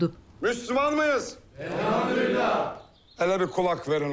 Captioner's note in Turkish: Hep bir ağızdan